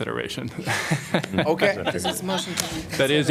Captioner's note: laughter